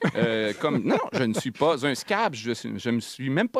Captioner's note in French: rire